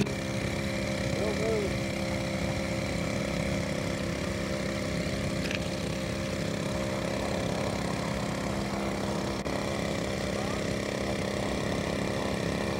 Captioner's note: indistinct chatter